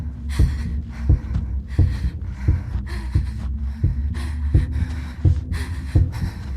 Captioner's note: breathing heavily